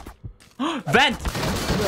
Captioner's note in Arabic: لهيث